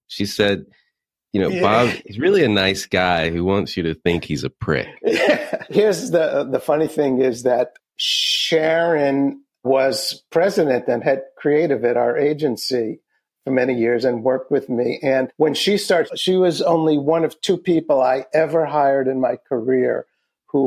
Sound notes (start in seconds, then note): 4.6 laughs